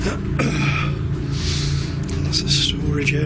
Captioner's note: clearing throat, sniffing